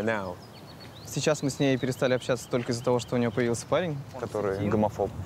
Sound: speaking in foreign language

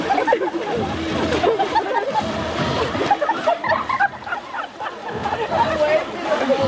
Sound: everyone laughing; rock music playing

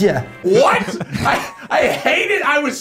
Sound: laughing

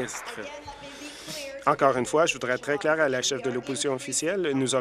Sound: applause

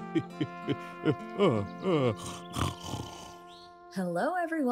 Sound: chuckle; music fades; yawn, snore

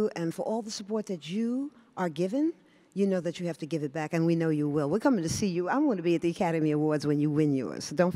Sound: none

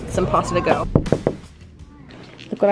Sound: knocking

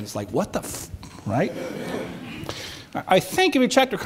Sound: audience chuckles

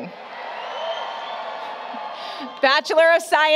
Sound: applause, Cheering

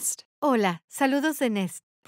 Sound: speaking spanish

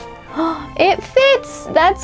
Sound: gasps

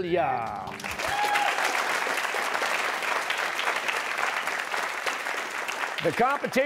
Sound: cheers and applause

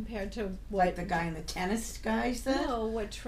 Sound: voiceover

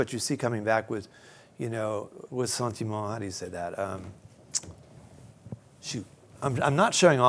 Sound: non-english speech

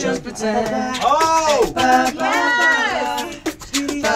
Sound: beatboxing

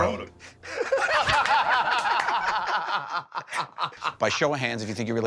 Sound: laughter

